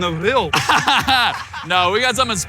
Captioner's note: both laughing